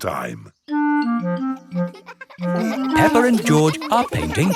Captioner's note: children laughing